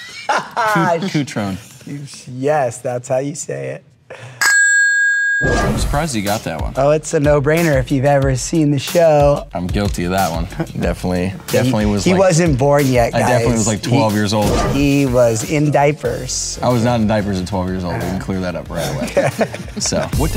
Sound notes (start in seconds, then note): 0.0 laughing; 4.4 bell dinging; 18.8 laughing